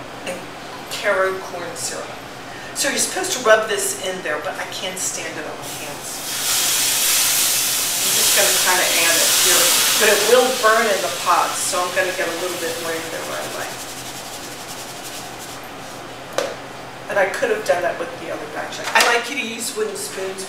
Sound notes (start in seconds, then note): 6.1 sizzling lemon juice